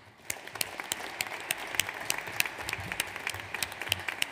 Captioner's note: audience applauds